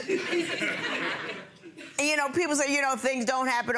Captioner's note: audience laughing